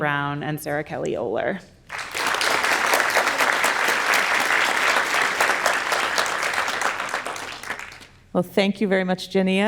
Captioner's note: audience applauds